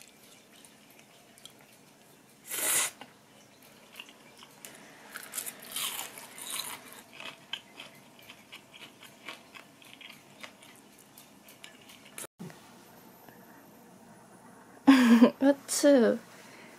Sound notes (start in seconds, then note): 2.4 slurp